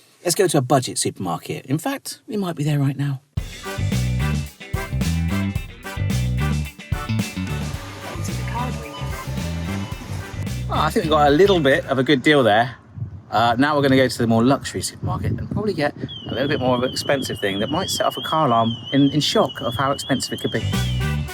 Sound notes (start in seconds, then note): 3.7 upbeat music; 16.4 car alarm; 20.5 upbeat music